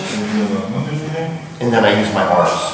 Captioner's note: speaking in a foreign language